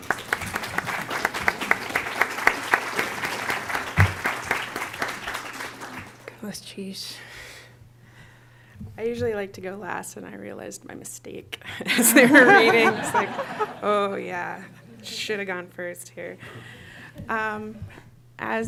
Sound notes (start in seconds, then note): 7.3 non-english speech; 11.8 laughter